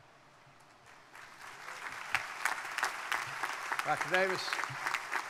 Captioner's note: crowd applauding